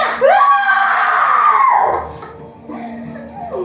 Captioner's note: Medusa screams